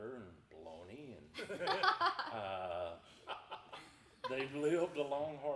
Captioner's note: everyone laughing